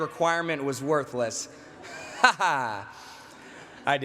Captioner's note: laughter